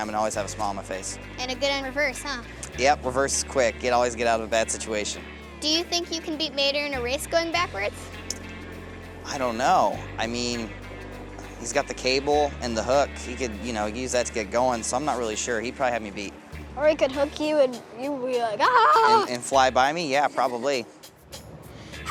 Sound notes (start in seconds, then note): 18.7 screams